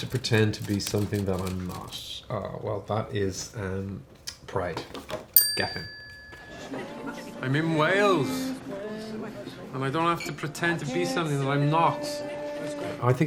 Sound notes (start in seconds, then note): 5.4 bell chimes